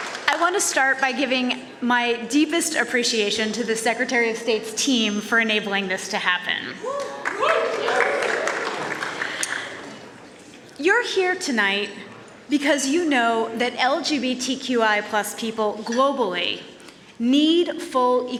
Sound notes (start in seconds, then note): 0.0 cheers and applause; 6.8 cheers